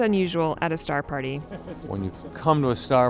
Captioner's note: Jacob laughs